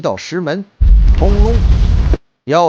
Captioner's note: rumble